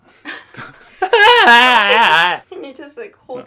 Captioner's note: blaaaaaargh